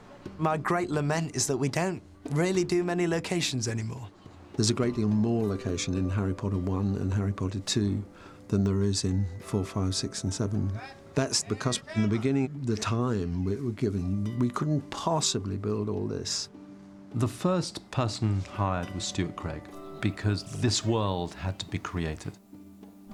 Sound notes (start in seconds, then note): none